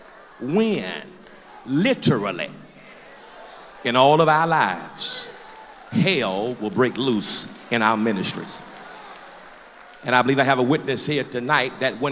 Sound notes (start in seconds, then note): 2.7 loud crowd agreement; 8.5 applause